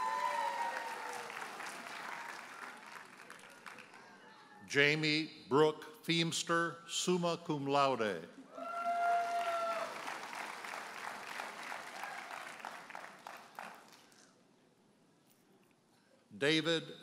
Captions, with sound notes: (audience cheers and applauds) Jamie Brooke Feamster, summa cum laude. (audience cheers and applauds)